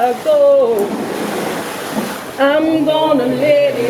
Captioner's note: water splashing